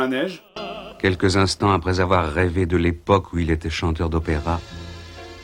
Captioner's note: voiceover